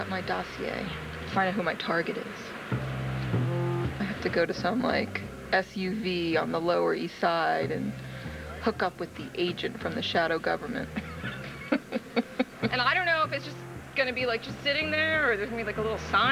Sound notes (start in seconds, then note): 6.3 laughing; 13.4 laughing